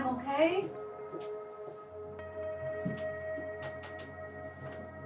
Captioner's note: footsteps tapping